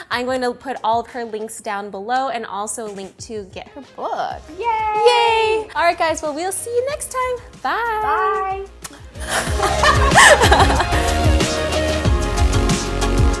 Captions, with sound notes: I'm going to put all current links down below and also to get her book. - Yay! - Yay! All right, guys, well, we'll see you next time. Bye. - Bye. (lips smacking) (laughs) (upbeat music)